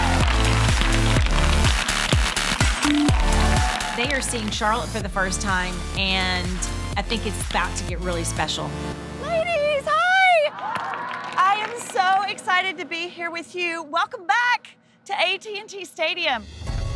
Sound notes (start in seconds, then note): 0.1 cheering; 10.4 cheering